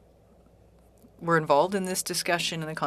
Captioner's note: speaking French